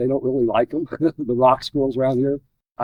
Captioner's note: laughs